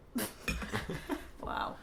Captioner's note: both laugh